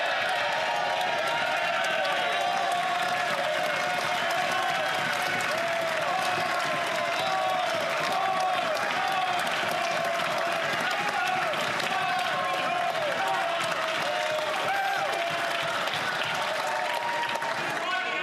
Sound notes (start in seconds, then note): 5.5 cheering